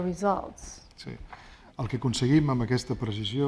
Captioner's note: speaking spanish